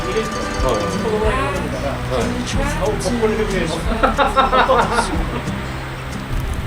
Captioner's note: haha